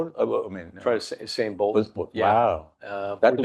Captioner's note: speaks faintly